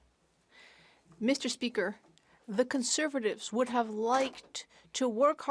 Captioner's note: speaking French